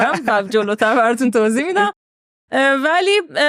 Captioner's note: laughs